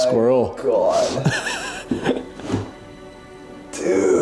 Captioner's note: laughing